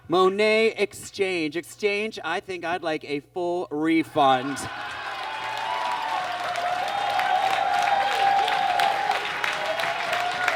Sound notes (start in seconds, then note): 4.7 audience laughs and claps